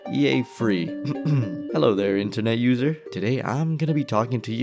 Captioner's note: ahem